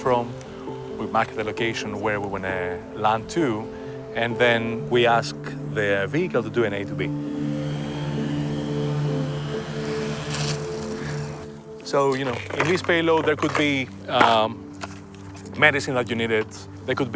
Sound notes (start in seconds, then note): 7.1 drone propellers humming